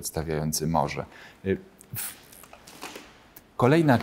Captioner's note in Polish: cisza